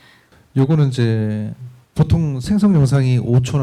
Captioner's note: speaking korean